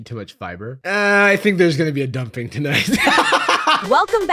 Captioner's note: laughs